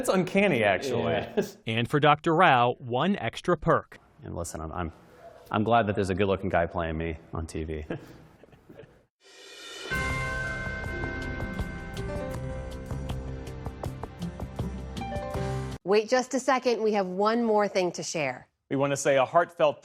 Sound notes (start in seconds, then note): 7.8 laughter